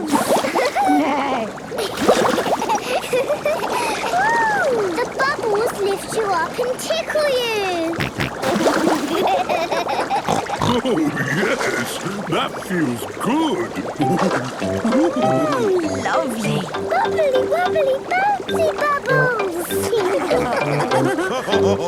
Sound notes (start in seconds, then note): 0.3 giggling; 0.6 giggling, neighing; 7.5 snorting, giggling; 19.8 all laughing